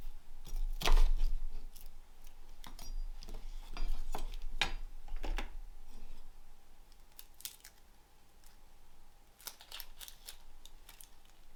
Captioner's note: crunching